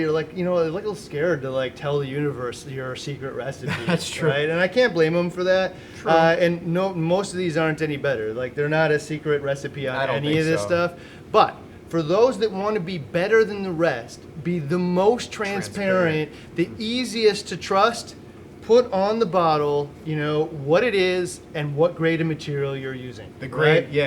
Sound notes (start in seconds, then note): 3.6 laughs